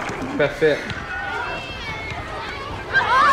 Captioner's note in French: cris enjoués